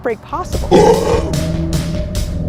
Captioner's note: slow music; growl